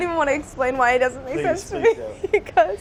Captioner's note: laughs